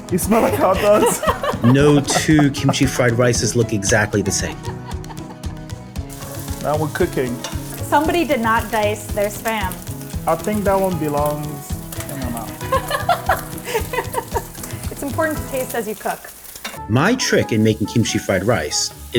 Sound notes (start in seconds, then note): 0.3 laughs; 12.4 laughs; 12.4 upbeat music